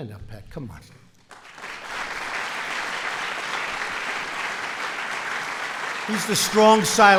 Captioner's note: applause